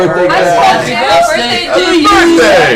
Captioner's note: cheering